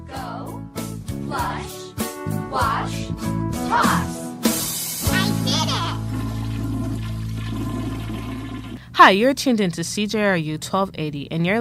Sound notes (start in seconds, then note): 6.2 toilet flushing